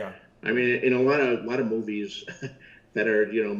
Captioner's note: laughs